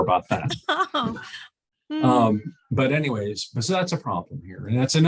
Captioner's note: chuckles